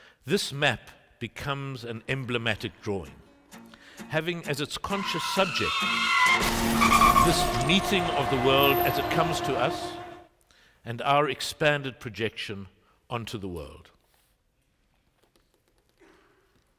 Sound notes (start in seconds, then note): 4.9 tires skidding; 6.3 crash